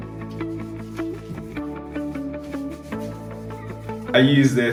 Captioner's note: upbeat music; light scrubbing